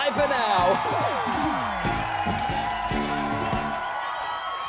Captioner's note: cheering